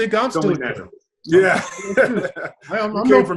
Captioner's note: laughs